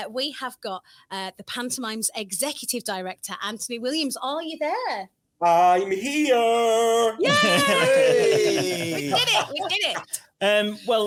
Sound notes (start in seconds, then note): 7.2 everyone laughs